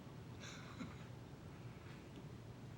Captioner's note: laughter